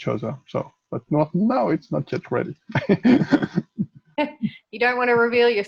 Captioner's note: laughs